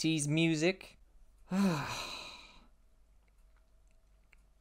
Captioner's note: exasperated sigh